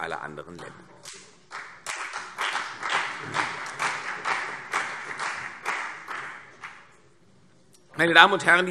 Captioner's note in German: Beifall CDU und BÜNDNIS 90/DIE GRÜNEN